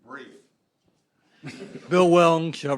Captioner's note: laughter